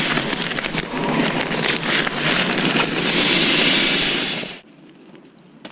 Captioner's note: laughs; rustling and sound of air streaming into the mattress